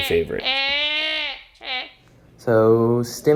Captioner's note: yells